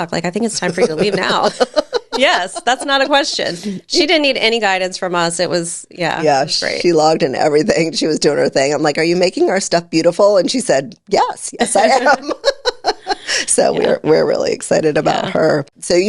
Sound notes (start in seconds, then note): 0.5 laughing; 11.7 laughs